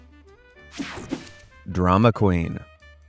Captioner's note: air whooshing